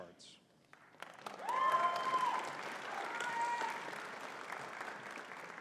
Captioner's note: audience cheering and clapping